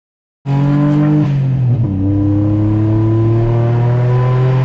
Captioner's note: car engine roaring